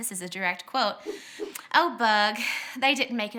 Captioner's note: whooshing